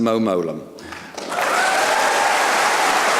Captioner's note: applause